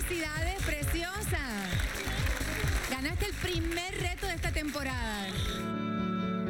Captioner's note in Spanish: aplausos